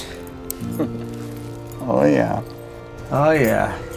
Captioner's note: chuckles